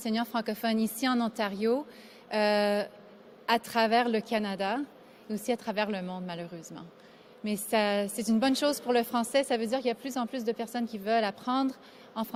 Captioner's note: speaking